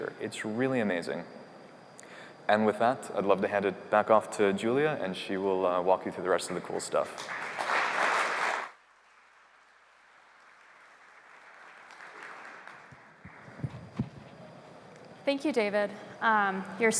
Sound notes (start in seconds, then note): 7.1 applause